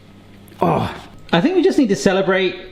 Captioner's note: sighs